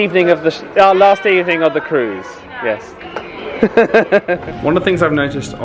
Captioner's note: laughs